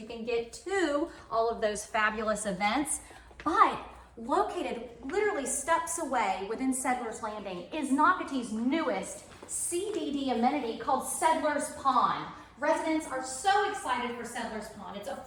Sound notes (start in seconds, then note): none